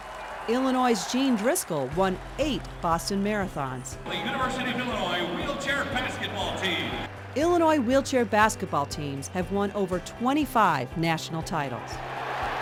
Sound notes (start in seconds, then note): 4.0 cheering; 9.8 stadium sounds